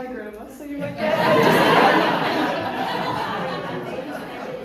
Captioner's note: audience laughing